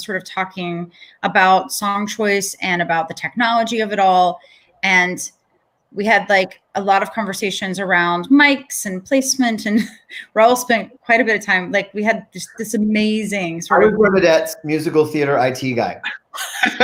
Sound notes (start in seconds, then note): 10.0 laughs